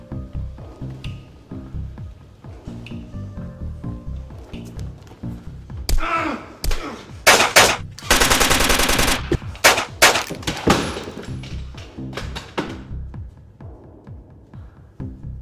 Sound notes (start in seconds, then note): 5.9 men grunting; 7.2 guns firing